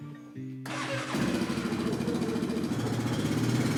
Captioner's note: engine starts